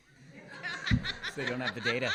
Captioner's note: laughter